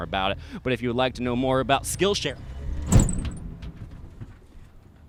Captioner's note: bang